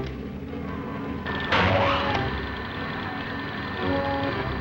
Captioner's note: machine whirs